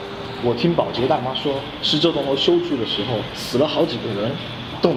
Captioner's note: sound of another Man's voice